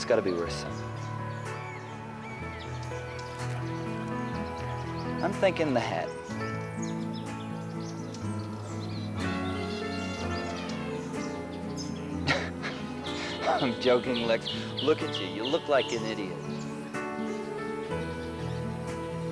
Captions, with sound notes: That's gotta be worth something. I'm thinking the hat. (laughs) I'm joking, Lex. Look at you, you look like an idiot.